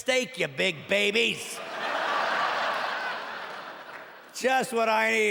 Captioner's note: laughing